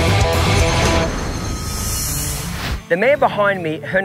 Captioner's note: shimmering